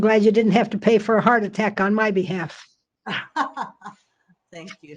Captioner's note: laughter